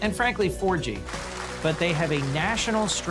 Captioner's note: applause